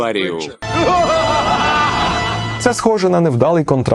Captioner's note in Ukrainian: злісний сміх